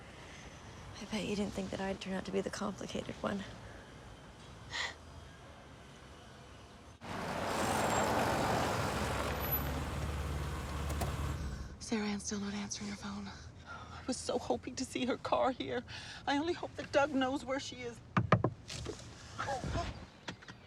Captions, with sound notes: I bet you didn't think that I'd turn out to be the complicated one. Sarah Ann's still not answering her phone. I was so hoping to see her car here. I only hope that Doug knows where she is. [Knocking]